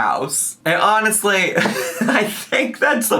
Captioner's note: laughs